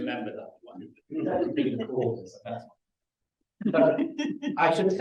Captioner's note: laughter